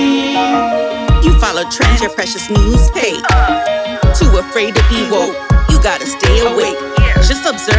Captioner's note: ugh